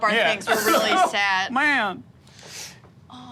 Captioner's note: sobs